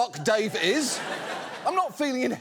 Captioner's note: audience laughs